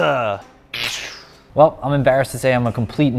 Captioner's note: electric buzz